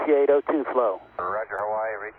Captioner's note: radio transmission